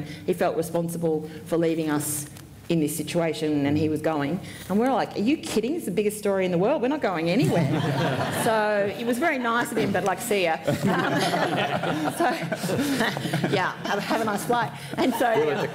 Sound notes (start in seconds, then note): 10.6 laughter